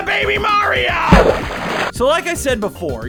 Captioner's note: sploosh!